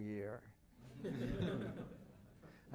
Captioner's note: laughter